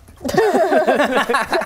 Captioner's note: laughs